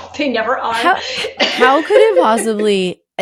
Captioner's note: laughing